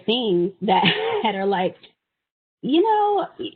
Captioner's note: chuckling